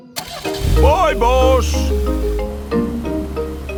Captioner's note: car engine starts